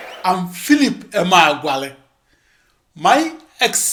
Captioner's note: wild applause and cheering for 22 seconds